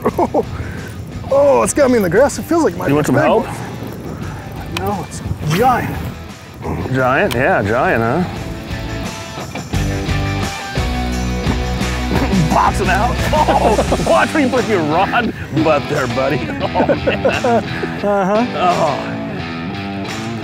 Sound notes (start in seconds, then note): 13.1 laughter; 16.3 laughter